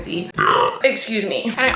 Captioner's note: burping